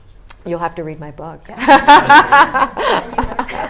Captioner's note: laughs